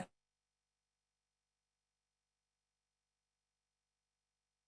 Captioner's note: audio drop